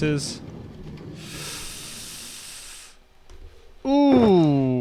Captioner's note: inhales sharply